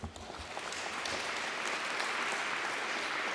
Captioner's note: applause